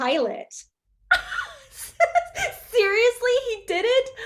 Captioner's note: Lydia and Alice laughing